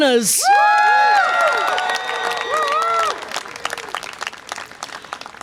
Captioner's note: audience applause and cheer